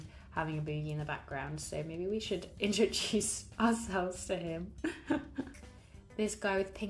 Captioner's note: laughs